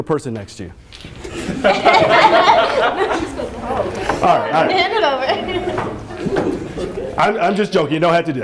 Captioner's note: laughter